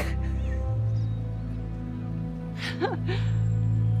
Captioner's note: Roscoe giggling